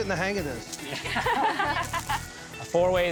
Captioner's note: ladies laughing